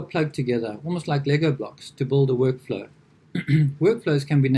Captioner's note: clears throat